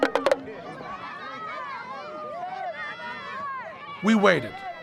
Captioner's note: chatter